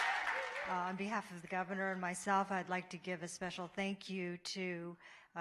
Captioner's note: applause